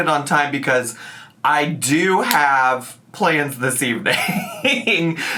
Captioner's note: laughs